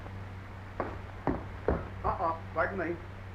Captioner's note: footsteps clomping